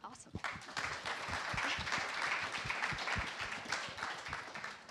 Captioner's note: applause